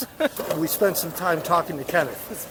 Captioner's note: laughs